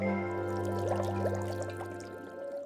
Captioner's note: bubbling; warbling